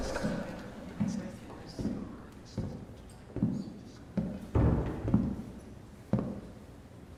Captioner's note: approaching footsteps